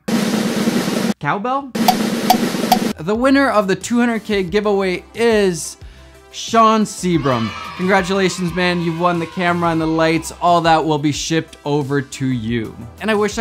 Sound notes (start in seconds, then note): 0.1 drums rattling; 2.7 cowbell tapping